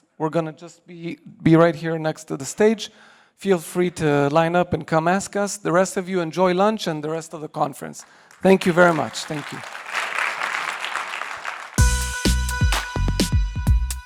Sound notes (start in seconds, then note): 9.8 applause